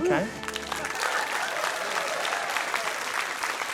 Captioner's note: cheering, applause